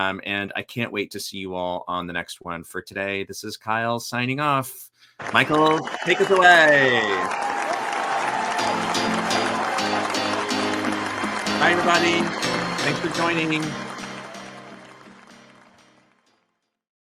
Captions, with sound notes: And I can't wait to see you all on the next one for today. This is Kyle signing off. Michael, take us away. (audience applauding) (upbeat music) Bye everybody. Thanks for joining me.